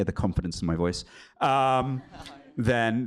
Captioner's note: laughter